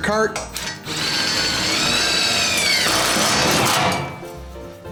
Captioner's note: drill whirs